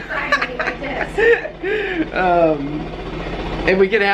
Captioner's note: laughter